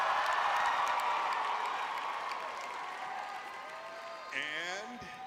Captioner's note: audience cheering